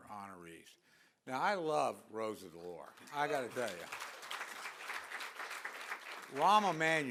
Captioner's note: applause